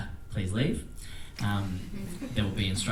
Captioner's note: attendees laugh